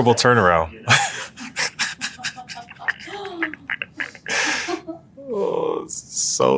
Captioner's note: laugh